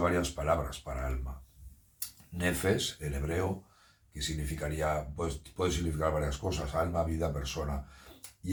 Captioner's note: nefes